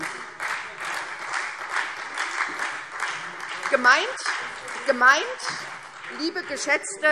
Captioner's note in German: Beifall SPD und Freie Demokraten